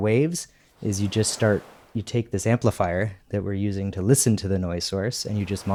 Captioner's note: wave sounds